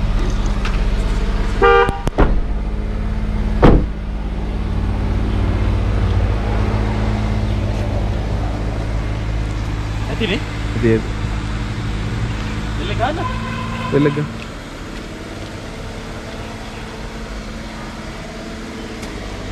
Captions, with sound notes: (Honking) (Door closing) Someone must be there. Right? Shall I ring the bell? Ring the bell!